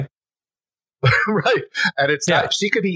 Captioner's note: laughs